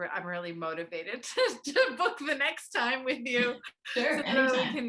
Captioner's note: laughs